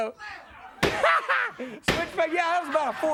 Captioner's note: laughs; hands thudding